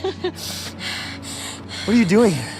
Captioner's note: Poppy breathing heavily